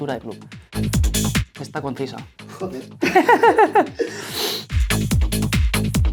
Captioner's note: laughs